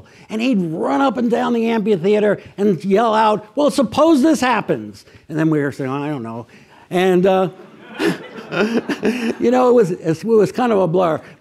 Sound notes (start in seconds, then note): 7.4 audience laughs; 7.5 chuckles